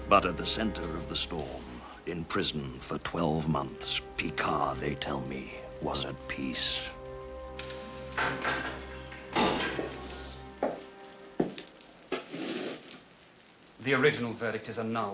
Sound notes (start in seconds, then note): 7.2 door opens; 7.2 keys jangling